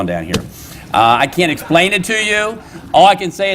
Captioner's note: laughter